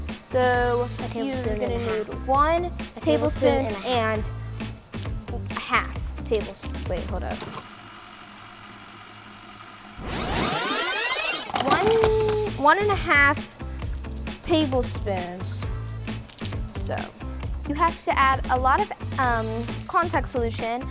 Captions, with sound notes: So table we're gonna do one table tablespoon and half tablespoon. Wait, hold up. (static crackling) (video rewinding) One and a half tablespoons. So you have to add a lot of contact solution